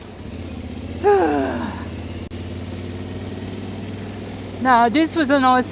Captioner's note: deep sigh